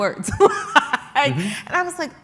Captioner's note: laughs